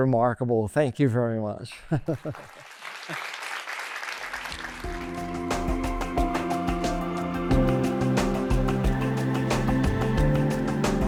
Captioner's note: applause